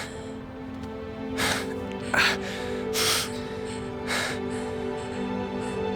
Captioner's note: Noah panting and grunting